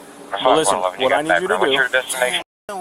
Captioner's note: radio chatter